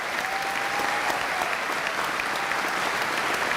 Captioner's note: applause